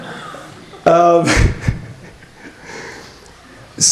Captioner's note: laughter